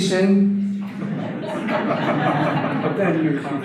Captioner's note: audience laughter